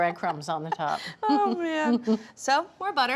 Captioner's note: laughs